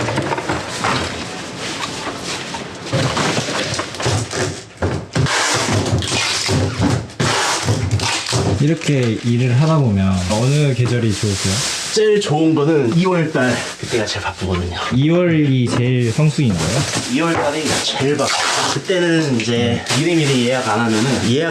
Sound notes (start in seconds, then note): 5.1 tape being torn